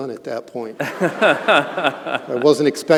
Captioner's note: all laughing